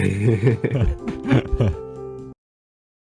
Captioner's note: laughing